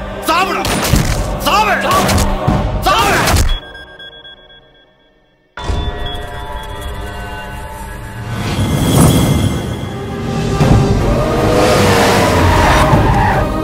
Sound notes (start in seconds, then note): 0.7 gunshot; 3.5 phone rings; 11.4 brakes squeak